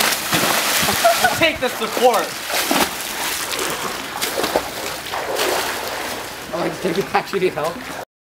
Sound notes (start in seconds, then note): 0.8 laughs